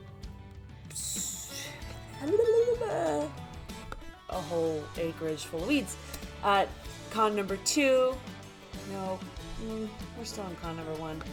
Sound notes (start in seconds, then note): 2.2 sighing and babbling